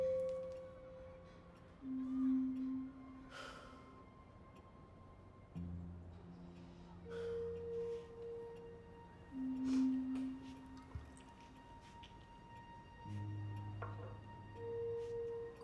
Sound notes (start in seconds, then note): 3.7 Stephen sighing; 12.2 dramatic orchestral music continues